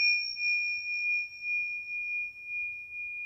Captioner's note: chiming